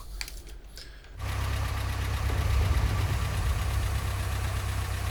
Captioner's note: tank rumbling